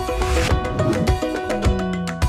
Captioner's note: text whooshes